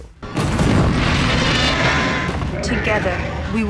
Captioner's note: roaring